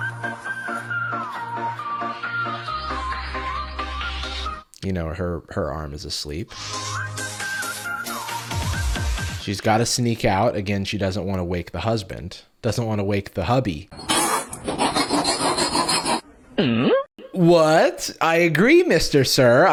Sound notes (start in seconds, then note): 14.0 spitting, axe sharpening; 16.5 questioning sound effect